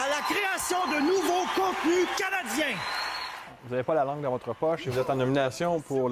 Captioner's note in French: cris et applaudissements